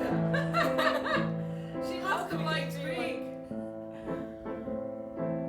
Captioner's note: laughter